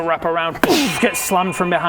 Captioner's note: boof